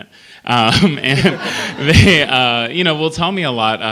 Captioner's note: laughter